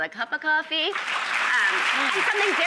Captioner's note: audience claps